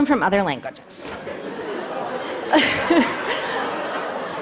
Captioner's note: laughter